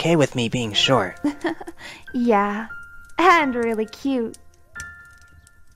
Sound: giggle

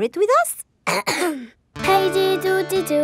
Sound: clears throat

